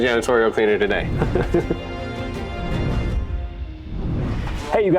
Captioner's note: air whooshing